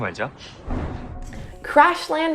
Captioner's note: air whooshing